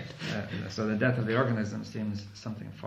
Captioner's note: laughs